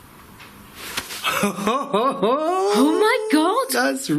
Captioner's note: gasping and laughing